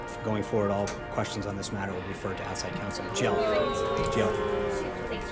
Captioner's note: boo track